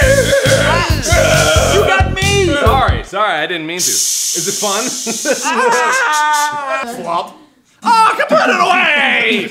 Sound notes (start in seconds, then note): 5.1 laughs; 5.5 painful screaming